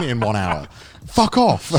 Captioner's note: laughing